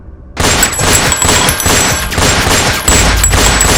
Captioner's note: gun blasts